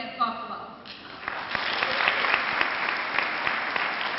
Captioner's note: clapping